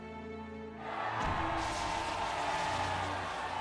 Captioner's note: cheering